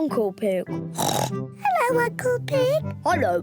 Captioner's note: in deep voice; oinks